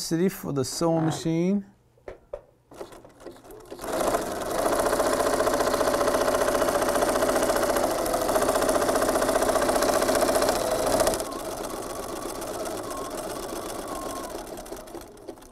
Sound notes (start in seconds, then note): 2.7 sound of a sewing machine